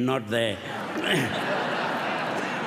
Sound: laughter

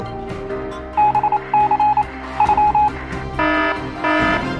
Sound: morse code; alarm

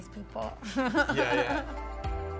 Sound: Michelle laughs

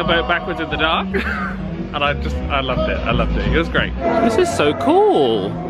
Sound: laughs

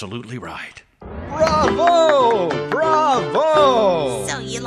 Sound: Mr Siddler applauding

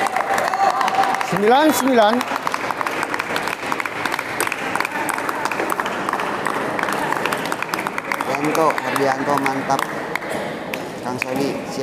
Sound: applause

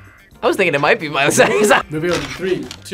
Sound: laughs

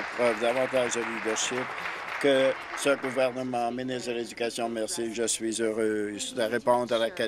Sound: applause

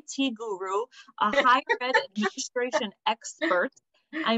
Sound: laughter

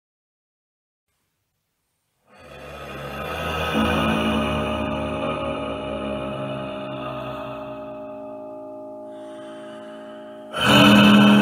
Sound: sound of ghost sigh, piano and angry monster

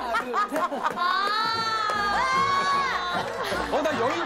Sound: screams

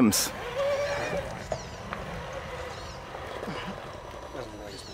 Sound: motor squealing

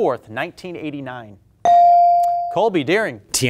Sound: buzzer pings

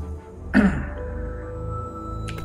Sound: coughs

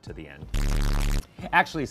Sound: static buzzing

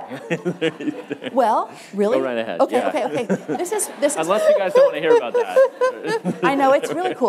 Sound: laughter

